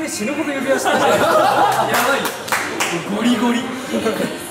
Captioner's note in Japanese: 笑い